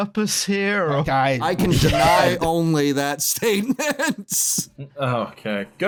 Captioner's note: laughs